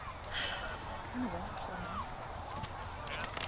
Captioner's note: sighs